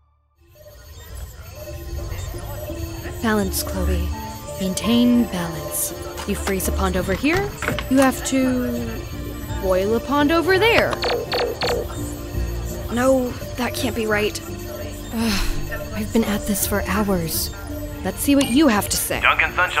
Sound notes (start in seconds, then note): 0.8 machines beeping